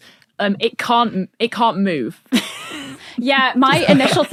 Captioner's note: wheezes